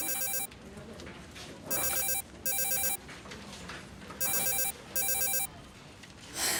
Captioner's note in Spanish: Suena el celular